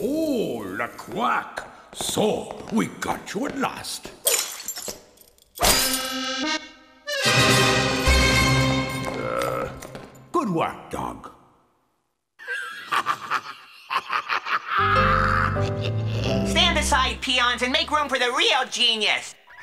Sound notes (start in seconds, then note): 5.7 playful music; 12.4 laughs